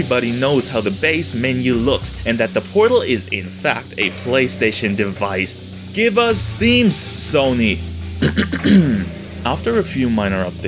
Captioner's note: ahem